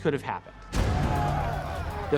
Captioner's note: shouting